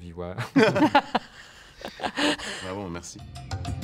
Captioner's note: laughs